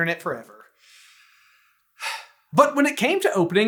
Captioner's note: sigh